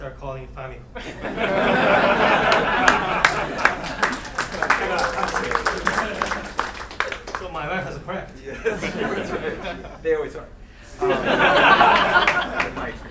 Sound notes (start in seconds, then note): 1.1 laughing; 1.6 clapping; 10.8 laughing